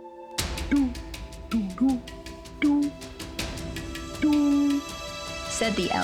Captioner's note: murmuring